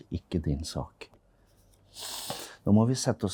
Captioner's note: mother sniffs